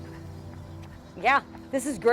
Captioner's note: jogger running